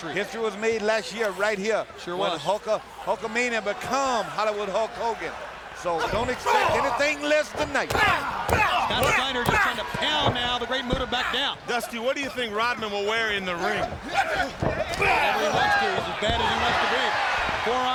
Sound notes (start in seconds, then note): 8.3 exclaiming